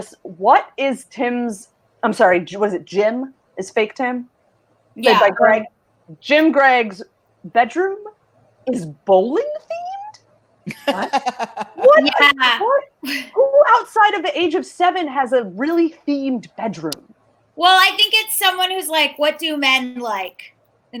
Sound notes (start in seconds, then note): 10.7 laughs